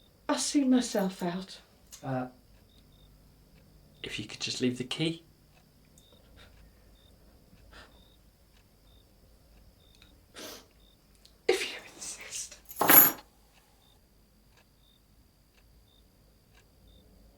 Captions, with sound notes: I'll see myself out. - Uh, if you could just leave the key? - If you insist. (keys jingle)